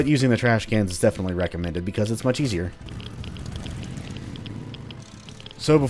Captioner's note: motorcycle revving